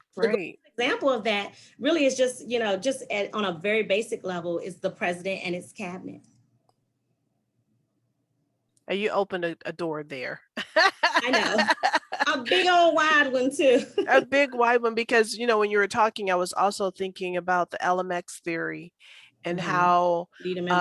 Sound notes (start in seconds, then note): 10.6 laughs